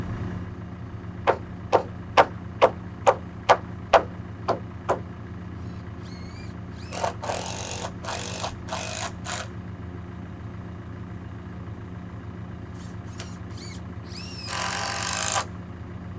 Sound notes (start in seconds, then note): 1.6 hammer pounding; 5.6 drill buzzing